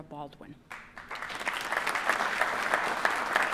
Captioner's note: applause